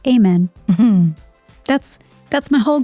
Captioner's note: cheerful music; chuckling